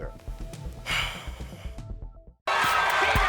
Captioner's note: sighing